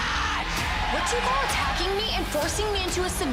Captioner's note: crowd cheers